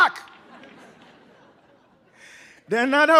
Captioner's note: audience laughing